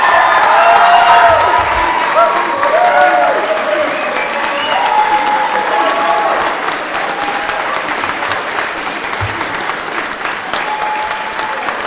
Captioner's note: cheering and Applause